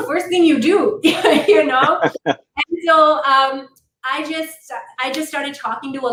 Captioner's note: laughter